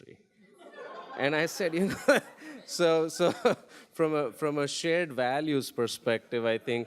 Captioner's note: audience laughing; laughs